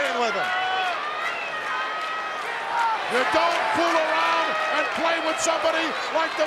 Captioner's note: applause